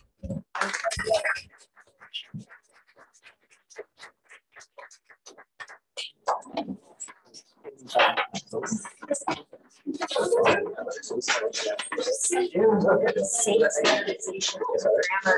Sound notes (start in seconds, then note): 0.5 applause; 5.9 indistinct conversation